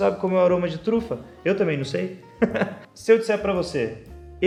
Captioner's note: laugh